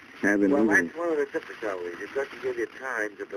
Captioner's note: on phone